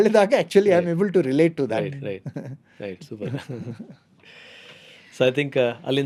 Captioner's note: laughs